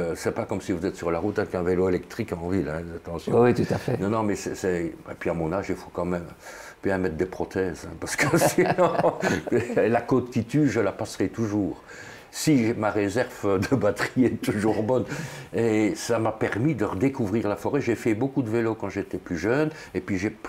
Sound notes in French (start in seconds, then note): 15.7 rire